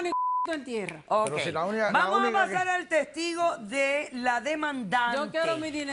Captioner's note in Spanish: Bip